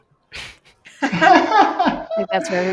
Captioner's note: laughter